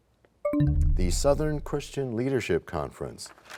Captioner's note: bell chimes, time expires